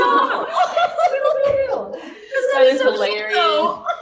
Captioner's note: laughing